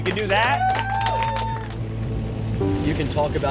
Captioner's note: crowd cheering